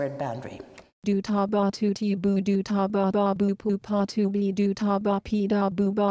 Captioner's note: computer voice speaking gibberish